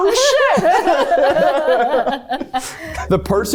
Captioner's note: everyone laughs